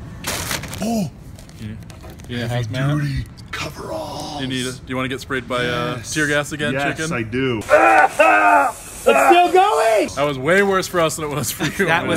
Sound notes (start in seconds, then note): 0.2 loud rustling; 8.0 loud whinning